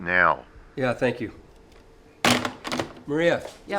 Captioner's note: phone receiver clatters